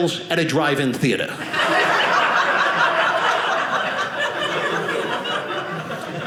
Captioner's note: audience laughing